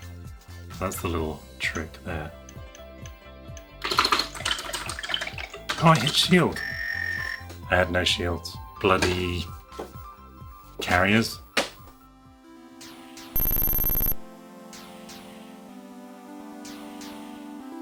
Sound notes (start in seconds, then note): 13.3 computer Game Sounds